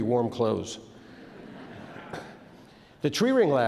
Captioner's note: audience laughs